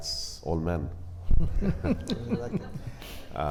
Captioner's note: panelists laughing